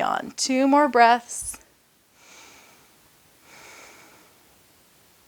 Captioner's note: breaths heavily